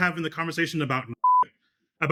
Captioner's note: beep